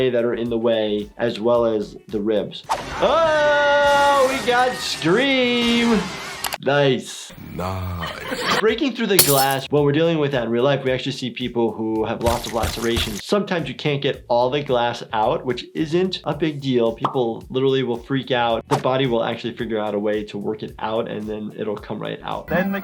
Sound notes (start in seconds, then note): 3.4 screaming; 8.0 laughing